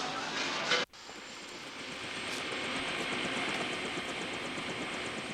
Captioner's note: helicopter whirring